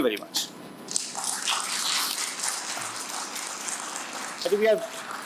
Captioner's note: applause